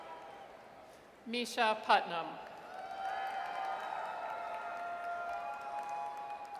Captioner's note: audience cheers; audience cheers